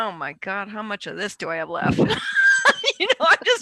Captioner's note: laughs